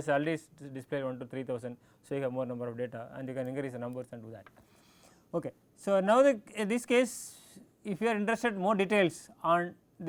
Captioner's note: click